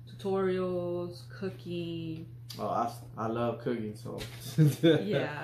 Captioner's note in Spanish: Risas